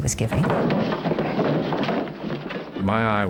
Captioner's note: door clatters